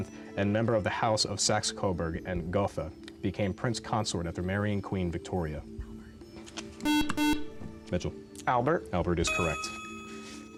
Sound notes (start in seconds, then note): 5.8 whispering; 6.8 buzzer